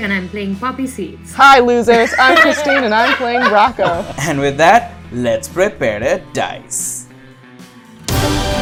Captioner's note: laughter